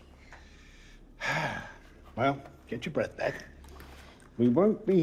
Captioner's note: sighs